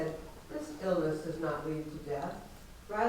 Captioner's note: none